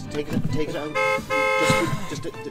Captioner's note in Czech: auto stále troubí